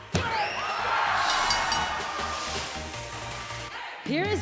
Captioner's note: bell ringing